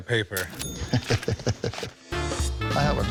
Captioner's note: laughs